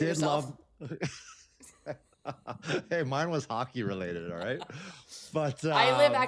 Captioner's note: laughs